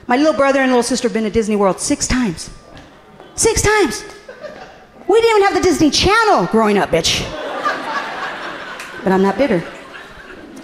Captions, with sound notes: My little brother and little sister been to Disney World six times. Six times! We didn't even have the Disney channel growing up, bitch. (audience laughing amusingly) But, I'm not bitter.